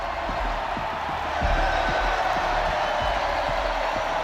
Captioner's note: crowd cheering